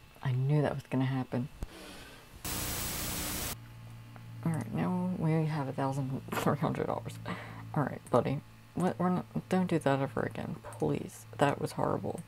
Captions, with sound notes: I knew that was gonna happen. [Static] Alright, now we only have a thousand three hundred dollars. Alright buddy don't do that ever again please. That was horrible.